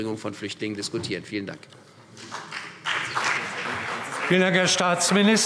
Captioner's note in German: Beifall CDU und vereinzelt BÜNDNIS 90/DIE GRÜNEN